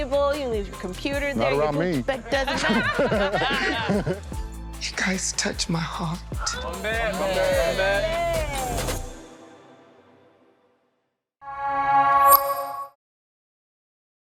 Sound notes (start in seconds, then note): 7.0 cheering